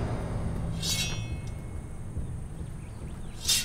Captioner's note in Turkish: Kılıç sesi